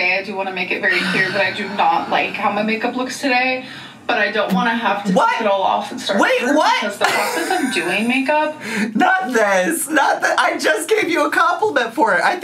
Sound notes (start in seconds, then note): 1.5 sighs; 7.0 laughs